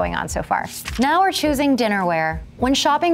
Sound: page flapping

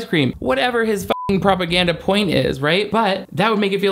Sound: beep

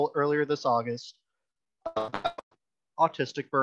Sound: digital static

